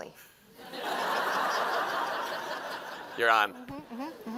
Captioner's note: laughter